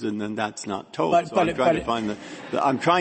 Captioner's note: laughter